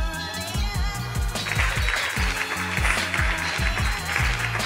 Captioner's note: audience applauding